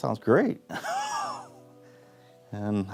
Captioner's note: laughs